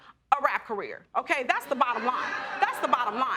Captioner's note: audience laughing